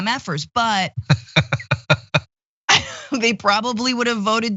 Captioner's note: laugh